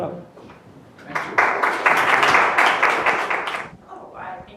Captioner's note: applause